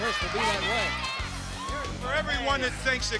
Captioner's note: fans cheering